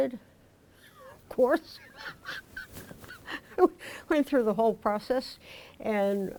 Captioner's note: laughs